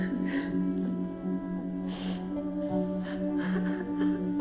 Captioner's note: Victoria sobbing